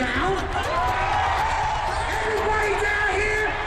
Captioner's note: cheering